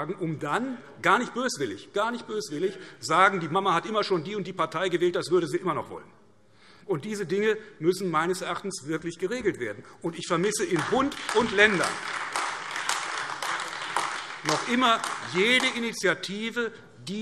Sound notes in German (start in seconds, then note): 10.5 Beifall AfD